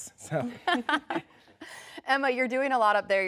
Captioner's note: laughs